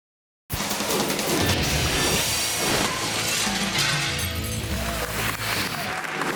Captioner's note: upbeat music; audience clapping